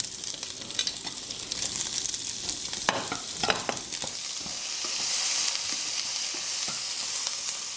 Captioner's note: sizzling